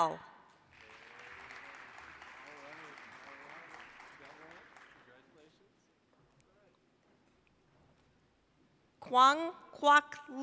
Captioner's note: applause